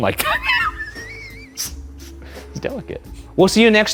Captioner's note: laughs